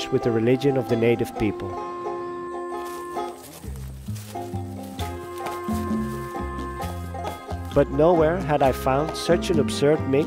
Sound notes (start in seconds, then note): 2.8 footsteps thudding